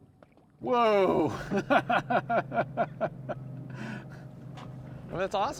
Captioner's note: laughs